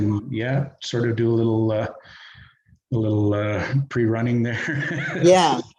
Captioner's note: chuckles